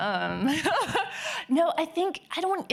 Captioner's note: laughing